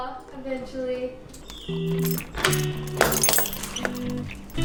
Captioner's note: door unlock sound